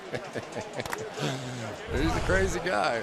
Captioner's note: laughs